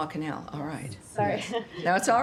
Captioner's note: laughter